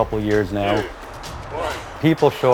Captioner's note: counting down, gasping for air